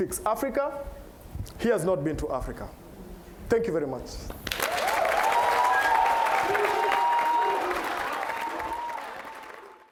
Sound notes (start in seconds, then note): 4.4 applause